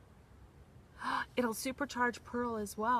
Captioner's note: gasps